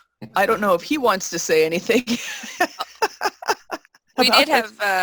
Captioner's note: laughs